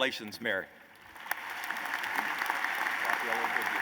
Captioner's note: applause